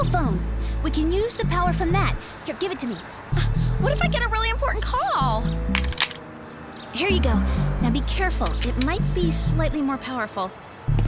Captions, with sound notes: Your cell phone-- we can use the power from that. Here, give it to me. [scoffs] What if I get a really important call? Here you go. Now, be careful. It might be slightly more powerful.